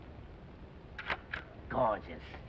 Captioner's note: shutter clicks